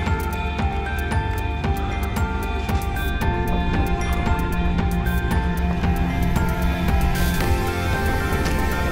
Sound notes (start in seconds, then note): 0.2 footsteps crunching; 3.2 wind blowing violently